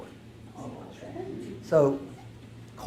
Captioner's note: audience murmurs